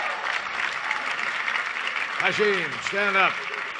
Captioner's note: cheers and applause